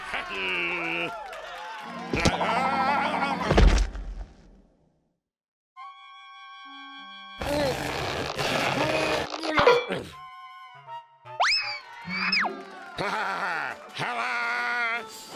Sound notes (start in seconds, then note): 1.9 cheers and applause; 3.5 thud; 7.4 straining